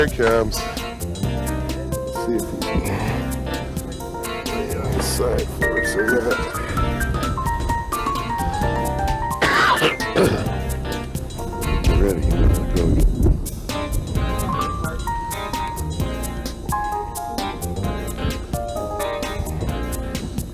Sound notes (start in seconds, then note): 9.3 coughing